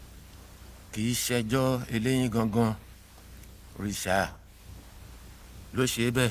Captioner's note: speaking in foreign language